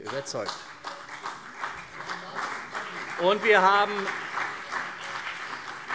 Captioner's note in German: Beifall CDU und vereinzelt BÜNDNIS 90/DIE GRÜNEN